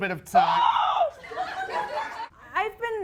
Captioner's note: screaming